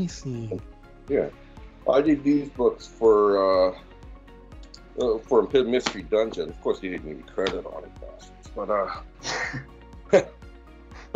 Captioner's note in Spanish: risas